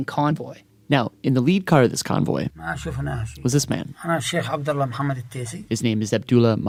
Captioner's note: speaking Arabic